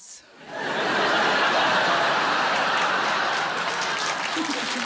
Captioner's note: audience laughs